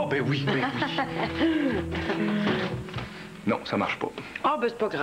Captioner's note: Rires